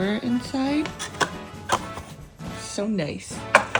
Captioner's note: satisfying sliding noises